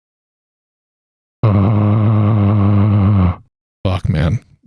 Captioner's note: frustration noise